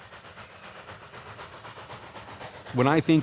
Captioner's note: train chugging